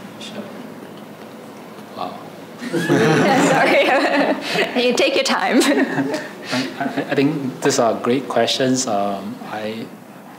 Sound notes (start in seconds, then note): 2.6 laughing